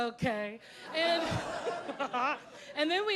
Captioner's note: audience laughing